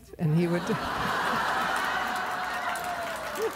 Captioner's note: laughter